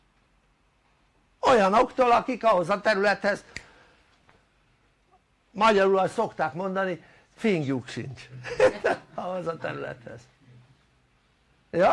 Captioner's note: laughter